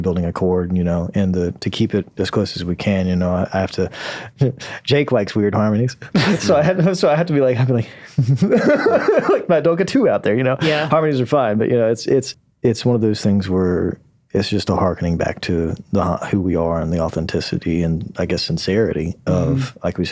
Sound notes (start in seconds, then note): 6.1 laughing